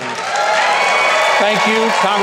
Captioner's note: audience cheers